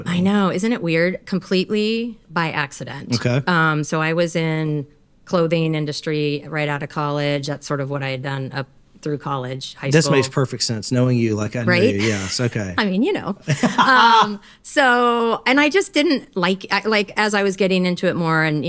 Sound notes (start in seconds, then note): 13.4 all laugh